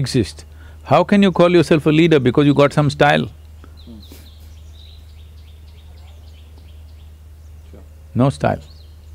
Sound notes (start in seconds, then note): 3.8 laughs